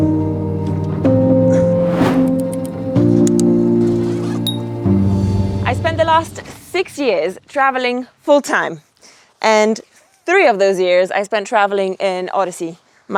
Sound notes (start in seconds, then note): 0.0 slow somber music; 3.8 zippers screeching